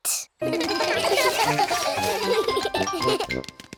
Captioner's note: all giggle